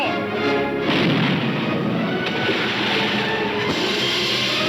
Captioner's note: cannon firing